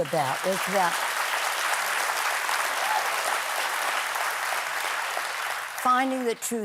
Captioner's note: applause